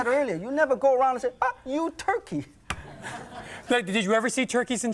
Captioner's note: crowd laughs